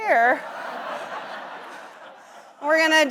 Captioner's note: audience laughs